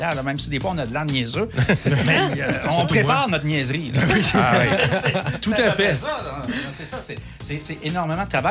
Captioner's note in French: rires